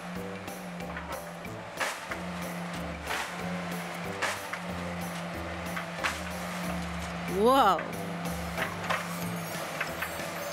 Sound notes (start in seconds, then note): 1.7 metal clashing